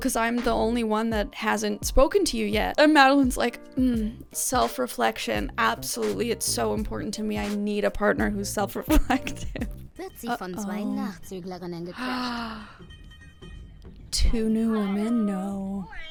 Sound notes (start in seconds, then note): 9.8 show host speaking in German; 12.0 gasps